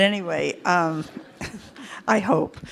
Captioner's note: participants laugh